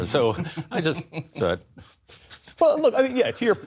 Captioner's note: laughter